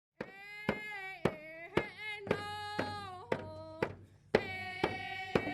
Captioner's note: chanting; drums beating